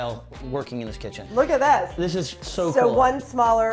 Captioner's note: none